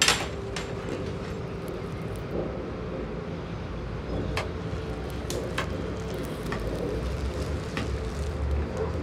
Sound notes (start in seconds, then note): 4.6 plastic bag rustling